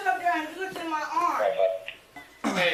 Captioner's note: radio chatter